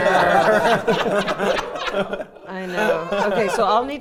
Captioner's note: players laughing